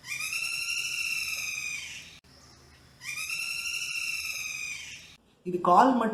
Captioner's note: black-rumped Flameback woodpecker's call